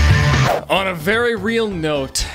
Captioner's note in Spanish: none